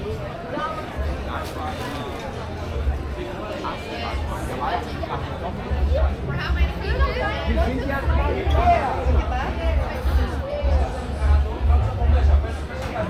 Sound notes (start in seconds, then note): 2.4 people chattering